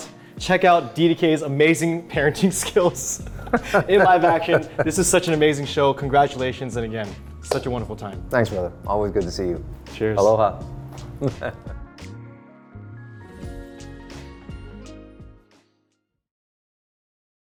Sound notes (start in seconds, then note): 4.5 laughing; 11.2 laughing